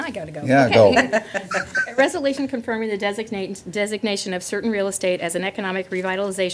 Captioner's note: laughter